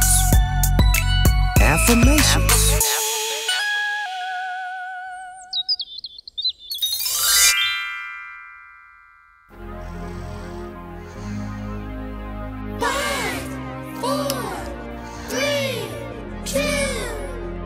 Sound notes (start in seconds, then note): 0.0 laid back music; 5.2 birds chirping